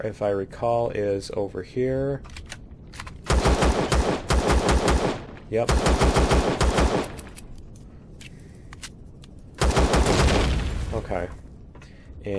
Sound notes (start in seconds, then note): 6.4 explosion